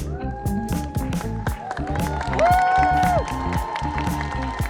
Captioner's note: audience cheering